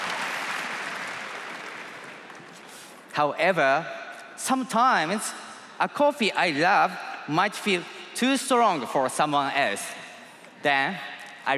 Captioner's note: cheers and applause